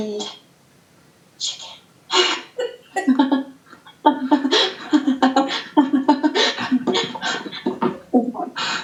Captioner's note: she laughs hysterically